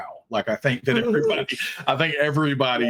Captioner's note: laughing